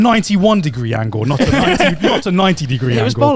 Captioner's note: laughs